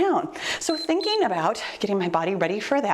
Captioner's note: timer beeps